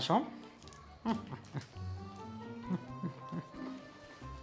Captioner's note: laughter